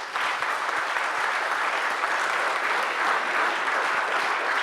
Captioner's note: audience applauds